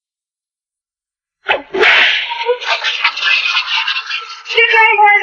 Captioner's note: cracking whip